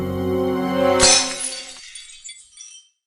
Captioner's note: glass Break